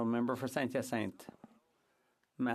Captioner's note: speaking French